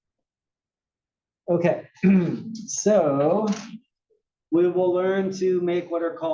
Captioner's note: cough